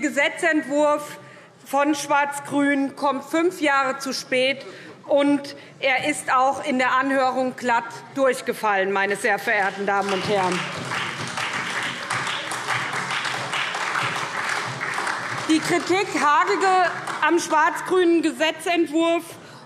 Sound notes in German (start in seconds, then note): 9.6 Beifall